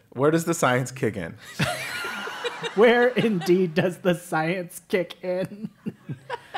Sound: laugh; laugh

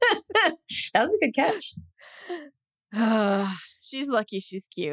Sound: laughs

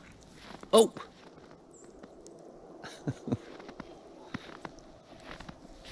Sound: laughing

